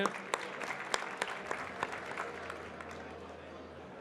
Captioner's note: audience clapping